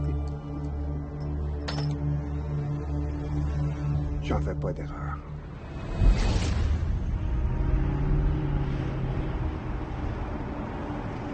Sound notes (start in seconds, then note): 0.5 uneasy music continues; 3.7 LaFleur speaking in French